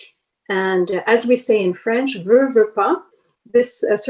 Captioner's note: speaks in foreign language